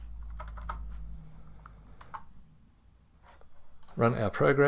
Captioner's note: keyboard clacking